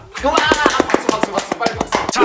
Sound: clapping

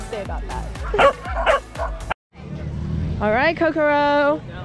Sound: dogs barking

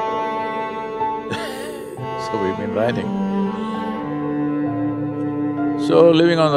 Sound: chuckles

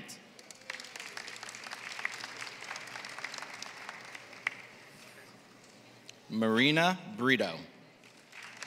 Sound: applause; applause

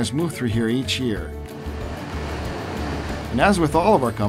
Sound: waves crash

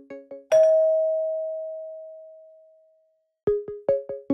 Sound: bell dings; inquisitive electronic music

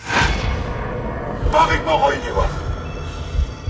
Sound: in distorted voice

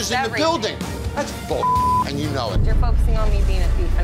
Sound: beeping

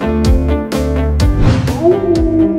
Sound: coyote howl

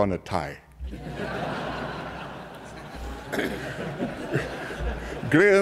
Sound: laughter

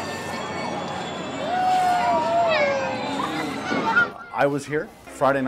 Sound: bell ringing; festival sounds

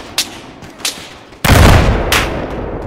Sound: explosion

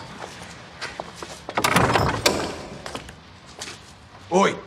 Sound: door opens

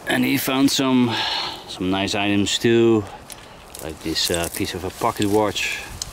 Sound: none

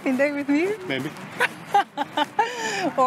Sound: laughs

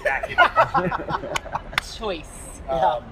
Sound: laughter

